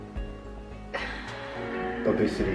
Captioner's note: sigh